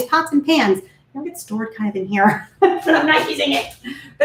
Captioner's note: laughs